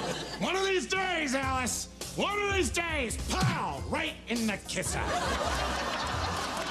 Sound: hysterical laughter

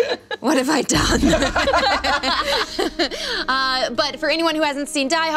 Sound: laughing

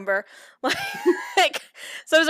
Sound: laughter

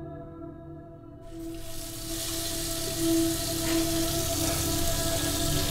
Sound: water running

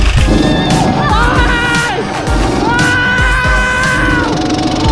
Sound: shouting

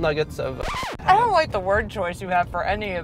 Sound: record scratch

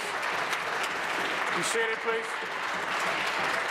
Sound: applause

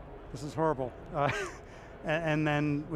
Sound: laughing

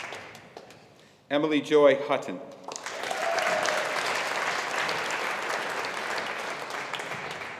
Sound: audience applauding

